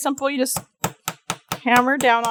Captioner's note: light hammering